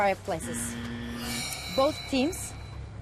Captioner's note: buzzer and chime